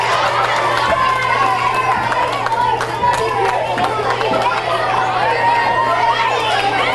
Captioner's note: audience cheering